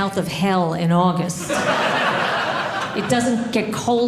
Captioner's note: audience laughing